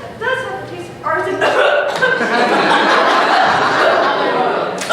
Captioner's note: coughing/choking